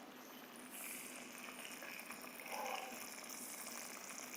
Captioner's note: food simmering